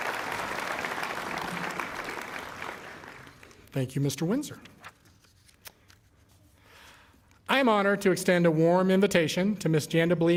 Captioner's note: cheering and applause